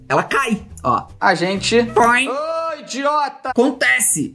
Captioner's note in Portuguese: poing